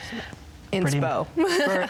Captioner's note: laughs